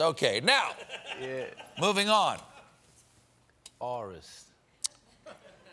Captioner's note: laughter